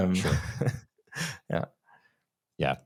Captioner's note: chuckling